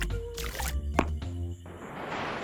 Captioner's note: boing